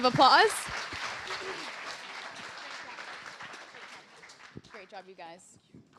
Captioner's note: applause